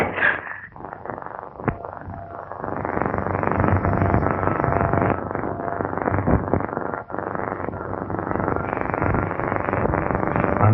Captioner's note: pounding